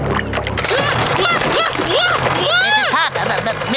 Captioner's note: shrieking